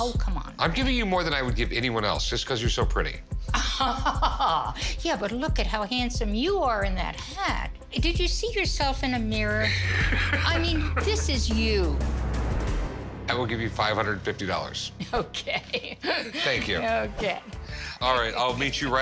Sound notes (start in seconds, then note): 3.5 laughs; 9.7 laughter